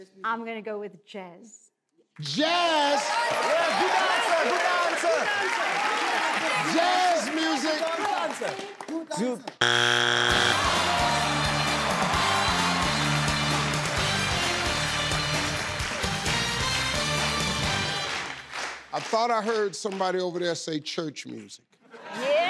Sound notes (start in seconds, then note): 2.8 applause